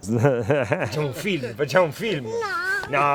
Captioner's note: speaking Italian